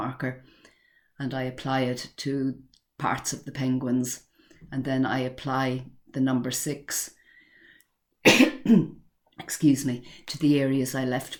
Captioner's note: cough - excuse me